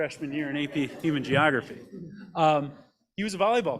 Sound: group laughs

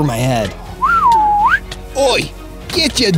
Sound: whistle

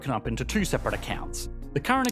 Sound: air whooshing

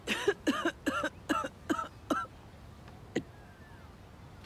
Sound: Rose coughing

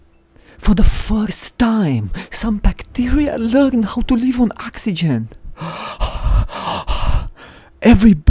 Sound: breathing

